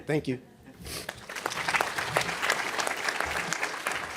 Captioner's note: applause